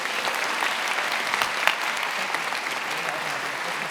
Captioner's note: attendees applauding